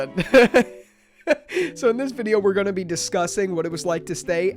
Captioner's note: laughs